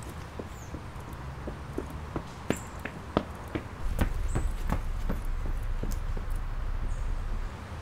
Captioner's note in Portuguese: Passos pesados correndo